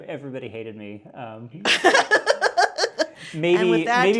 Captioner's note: laugh